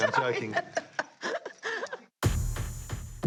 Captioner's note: laughing; dramatic music